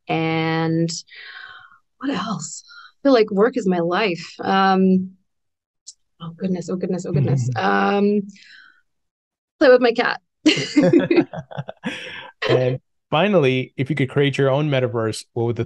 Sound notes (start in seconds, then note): 10.4 both laugh